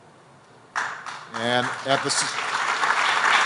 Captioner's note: applause